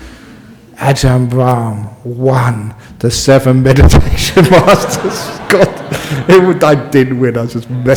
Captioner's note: laughs